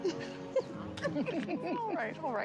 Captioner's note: giggling